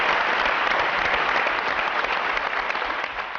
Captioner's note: applause